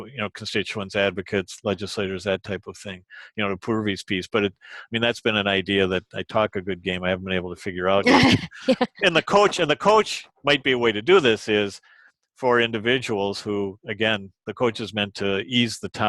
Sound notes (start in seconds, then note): 8.5 laughing